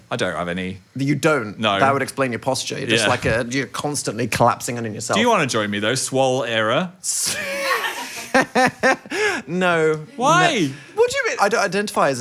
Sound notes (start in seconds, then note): 7.3 and crew laugh